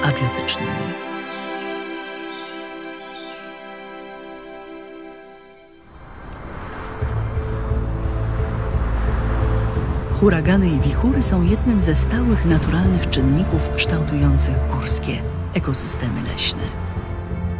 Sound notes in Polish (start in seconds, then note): 5.8 tło wypełnia dźwiek huraganowego wiatru